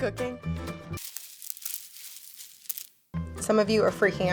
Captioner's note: crinkling